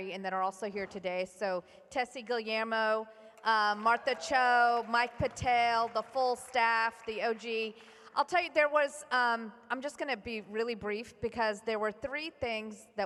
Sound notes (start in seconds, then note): 7.1 applause